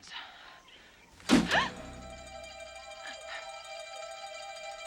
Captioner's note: Taryn gasping